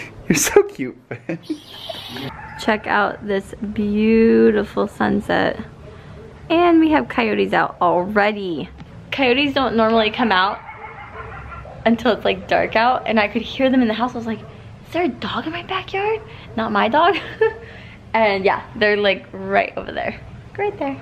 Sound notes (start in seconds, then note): 0.0 laughs; 10.0 cototye barking; 17.1 giggle